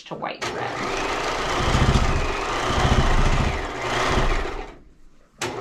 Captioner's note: sewing machine roaring